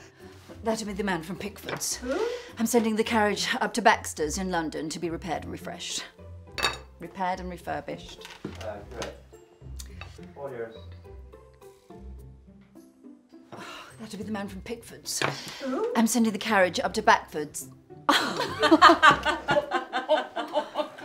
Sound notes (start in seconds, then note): 15.4 sighs; 18.1 laughter